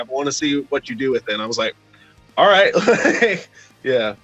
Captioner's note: laughs